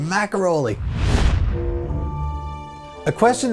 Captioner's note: swoosh